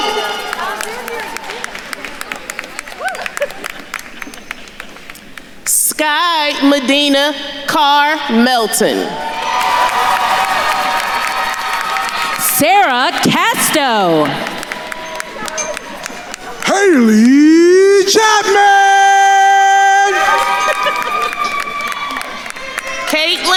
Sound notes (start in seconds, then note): 0.0 attendees cheering applauding; 9.4 attendees cheering and applauding; 14.8 attendees applauding; 20.0 attendees cheering and applauding